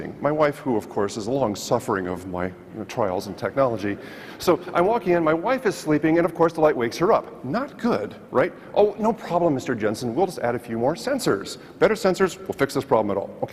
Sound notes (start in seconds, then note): none